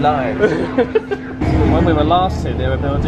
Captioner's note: laughs